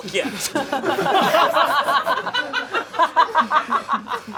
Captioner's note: audience laughing